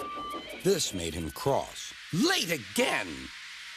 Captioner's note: Edward peeps